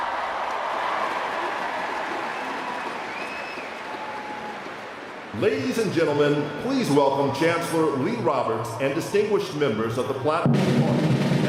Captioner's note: cheers and applause